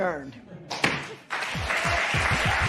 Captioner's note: gavel bangs; cheers and applause